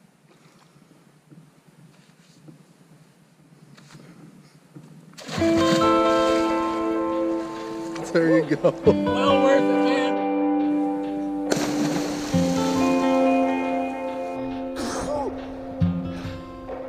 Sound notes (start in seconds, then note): 5.1 water splashes; 6.3 guitar music; 11.3 water splashes; 13.7 slow guitar music